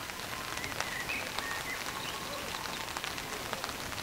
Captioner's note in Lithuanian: Plojimai